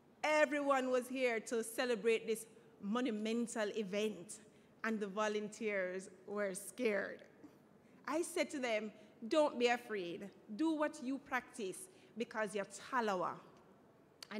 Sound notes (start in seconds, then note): none